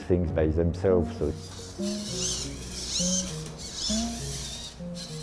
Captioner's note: robots whirring